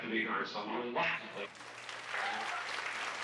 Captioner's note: group applauding